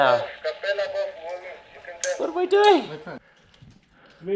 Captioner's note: walkie-Talkie rumbles